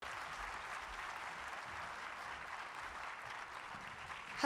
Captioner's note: audience applauding